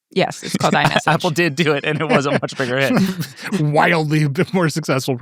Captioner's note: laughs